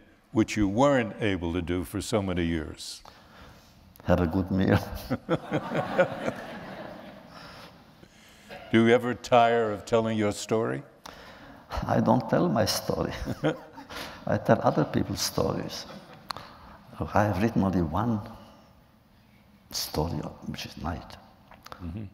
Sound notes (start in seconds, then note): 4.7 laughter